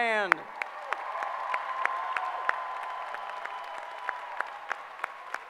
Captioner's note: applause